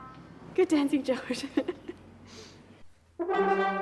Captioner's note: laughing